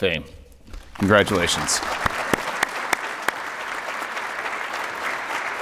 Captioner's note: applause